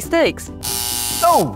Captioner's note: buzzer